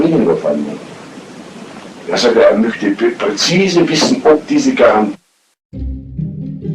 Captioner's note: A door opens and the recording ends